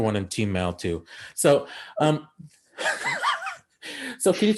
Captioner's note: laughing